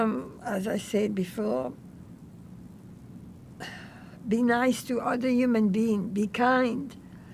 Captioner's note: sighing